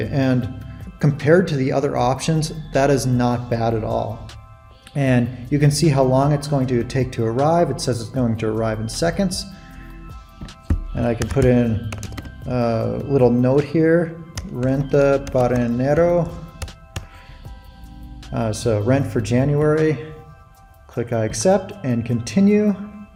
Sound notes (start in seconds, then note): 14.6 speaking in Spanish